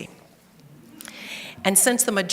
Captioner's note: audience laughing